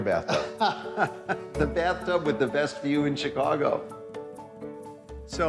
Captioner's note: laughs